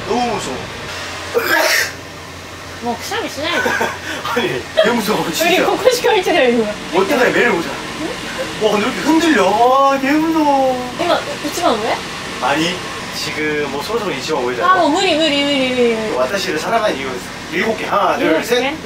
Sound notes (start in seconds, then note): 1.3 sneezing